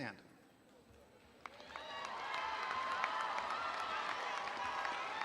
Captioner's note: audience applauding